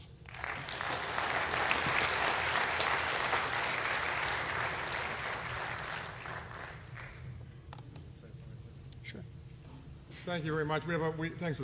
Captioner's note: applause